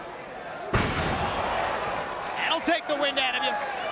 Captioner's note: Tanaka slamming